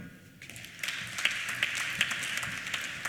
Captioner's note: applause